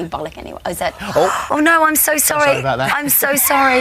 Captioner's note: gasps